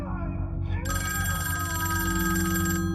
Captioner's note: phone ringing